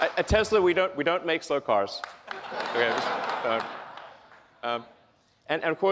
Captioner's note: laughs